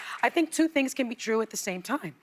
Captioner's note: applause